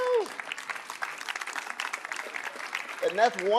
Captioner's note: audience applauding